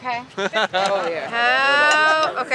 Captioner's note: laughs